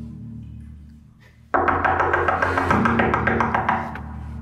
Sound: loud knocking

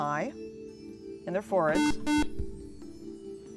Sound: buzzer

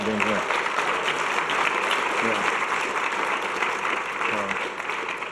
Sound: audience clapping

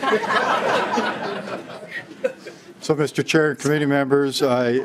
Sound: laughing

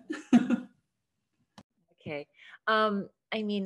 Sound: laugh

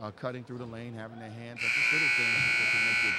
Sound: buzzer dings

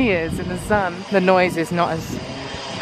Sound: drill whirring

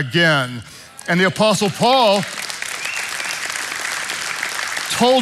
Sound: congregation applauding

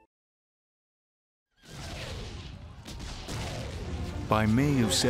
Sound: war sounds

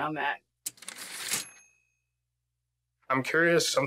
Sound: typewriter ding

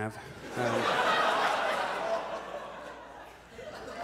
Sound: audience laughs

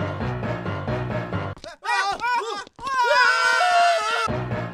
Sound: sinister music; all carpenters start screaming; sinister music

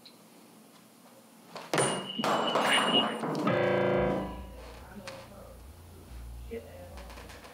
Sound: metal clatters; piano note blares

